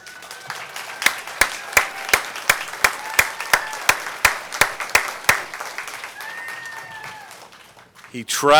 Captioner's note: applause